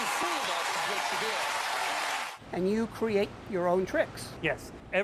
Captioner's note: audience applause